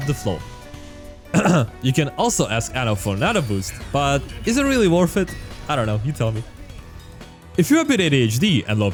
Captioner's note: ahem